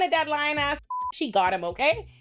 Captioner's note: beep